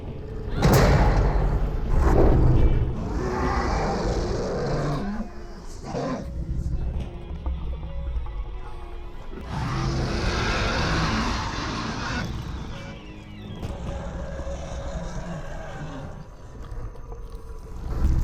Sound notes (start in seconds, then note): 0.3 growls; 3.1 roars; 8.1 dramatic music; 9.3 growls; 12.4 dramatic music; 13.6 growls; 14.7 dramatic music